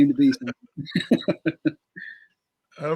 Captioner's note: laughter